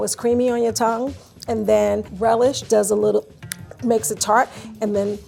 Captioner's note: clicks tongue